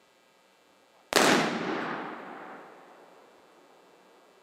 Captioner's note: gunshot